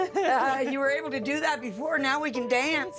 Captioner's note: laughing